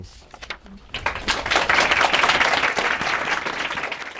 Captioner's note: applause